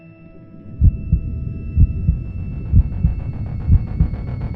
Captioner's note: suspenseful music; heartbeat thrums